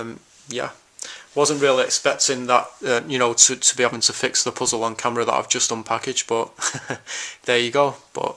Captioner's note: laughs